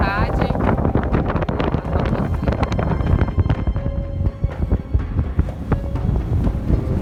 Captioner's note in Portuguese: vento